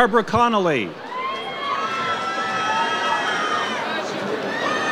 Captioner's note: audience cheers